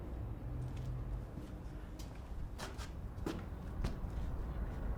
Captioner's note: feet shuffling